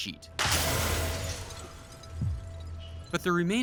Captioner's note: glass shattering